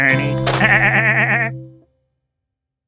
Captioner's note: laughs